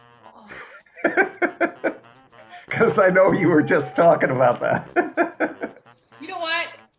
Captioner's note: laughing